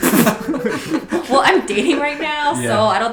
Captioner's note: laughs